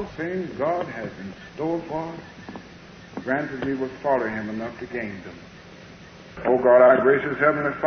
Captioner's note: recording interrupted